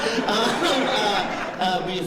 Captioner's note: laughter